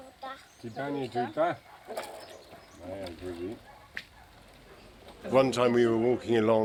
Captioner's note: child speaking Italian; speaking Italian